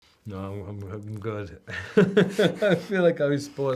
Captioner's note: laughs